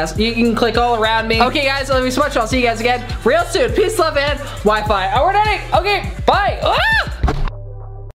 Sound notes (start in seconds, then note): 6.4 screams